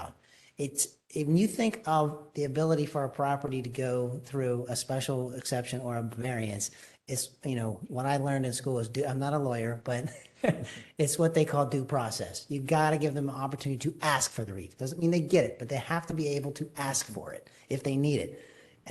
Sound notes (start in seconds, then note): 10.0 laughter